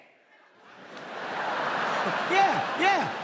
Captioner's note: audience laughs